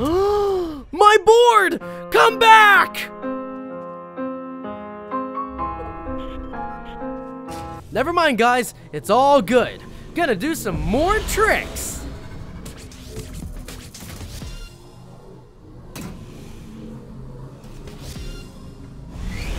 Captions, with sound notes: Uhhh my board! Come back! (sad piano music) Nevermind guys, it's all good. Gonna do some more tricks! (woosh)